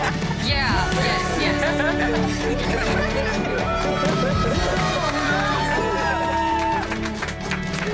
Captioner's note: guests laughing; upbeat music; group applauding